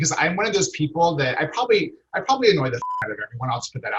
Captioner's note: beep